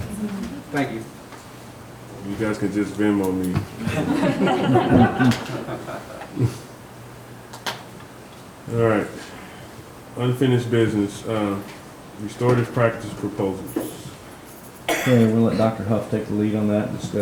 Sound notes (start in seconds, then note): 3.8 members chuckles